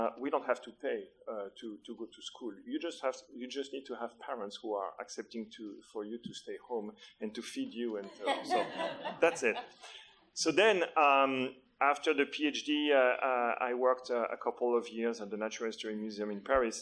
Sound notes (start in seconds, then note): 8.0 audience laughter